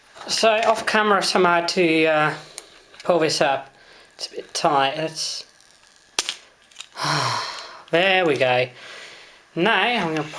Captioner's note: click and sigh